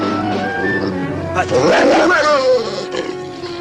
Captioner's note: growling